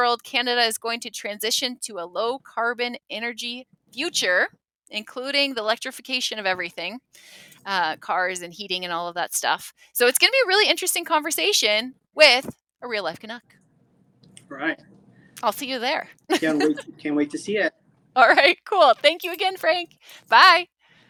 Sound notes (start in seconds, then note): 16.3 laughs